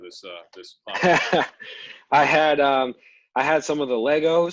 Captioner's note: laughter